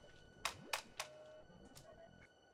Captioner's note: hand tapping; electronic beeping